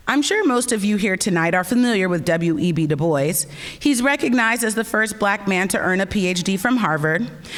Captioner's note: none